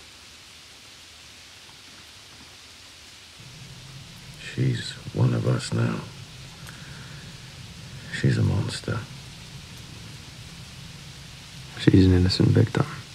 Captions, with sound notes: [rain] [thunder] "She's one of US now." "She's a monster." "She’s an innocent victim."